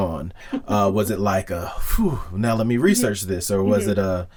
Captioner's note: exhale